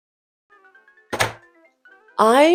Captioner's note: slams the book down